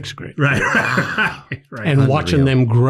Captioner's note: laughs